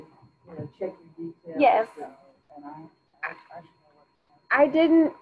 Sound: speaking faintly

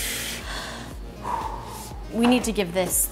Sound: heavy breathing

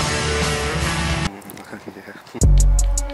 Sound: more sexual moaning, with added lip smacking

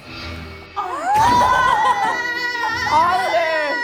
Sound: collective rage

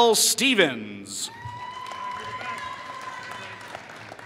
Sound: applause

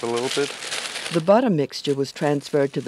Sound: voiceover

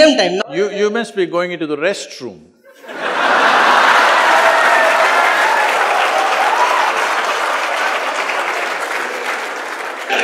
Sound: laughter/Applause

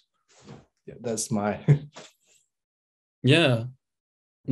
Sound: he chuckles

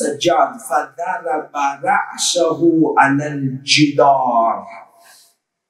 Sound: Arabic

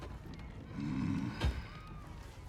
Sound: grunt

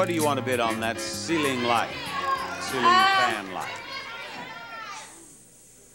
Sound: audience exclaiming

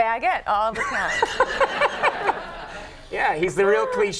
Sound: Conan and crowd laughing

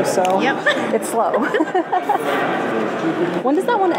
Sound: both laugh

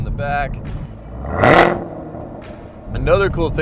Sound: car revving

